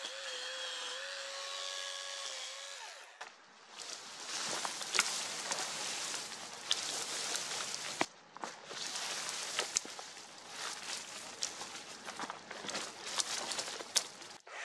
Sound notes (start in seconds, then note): 0.0 chainsaw running; 3.6 leaves and branches crackling